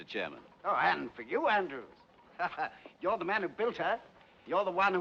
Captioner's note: Risos